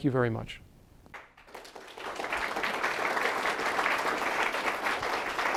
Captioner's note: applause